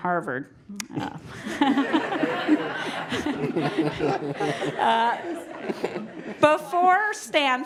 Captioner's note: laugh